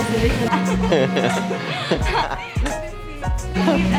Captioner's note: both laughing